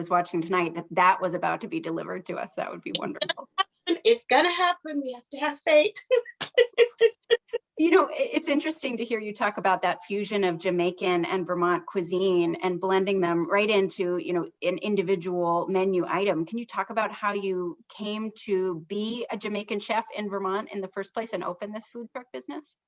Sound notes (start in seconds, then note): 5.6 laughs